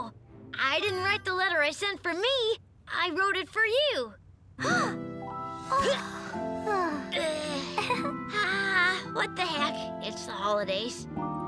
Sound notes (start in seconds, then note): 4.6 soft music; 5.6 Lizbeth gasps